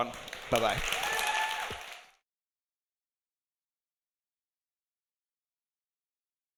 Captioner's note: audience applauding; audience cheering